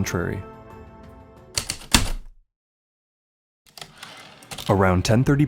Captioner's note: heavy typewriter keystrokes then return slide